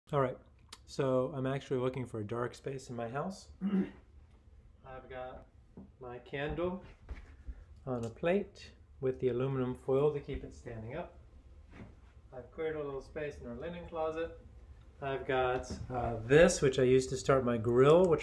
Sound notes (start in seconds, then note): 3.6 man clears throat